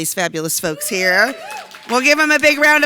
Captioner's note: audience applauding